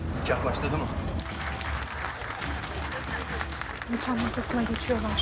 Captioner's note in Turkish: Alkış